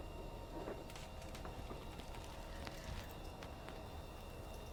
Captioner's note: sound of Asase standing up